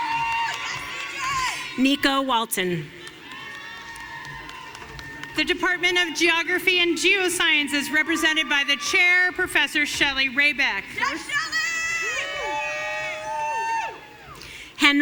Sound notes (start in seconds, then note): 0.0 audience cheering; 3.0 audience cheering